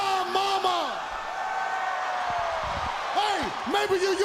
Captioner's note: crowd cheering